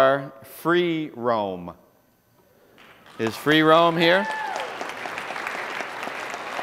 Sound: applause

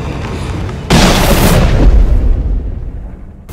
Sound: gun fires

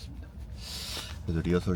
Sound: deep breath

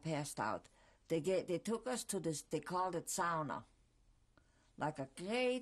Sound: german

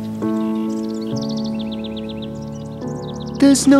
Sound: birds chirping

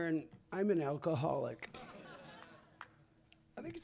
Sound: laughter

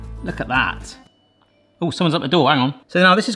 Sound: doorbell rings

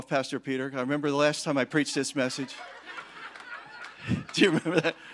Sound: congregation laughing

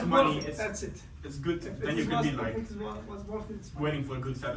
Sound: murmuring

